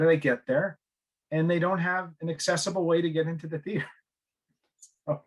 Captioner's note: laughing